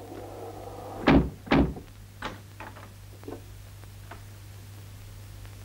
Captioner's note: lock clicks; door thuds